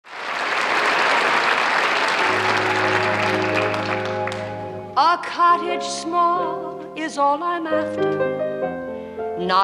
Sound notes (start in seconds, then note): 0.0 audience claps; 2.2 gentle music